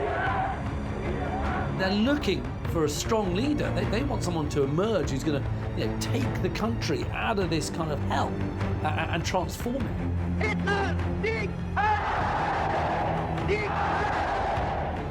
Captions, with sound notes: - They're looking for a strong leader. They want someone to emerge who's going to take the country out of this kind of hell and transform it. (crowd cheers)